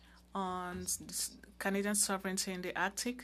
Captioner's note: speaking French